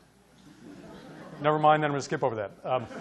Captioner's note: audience laughing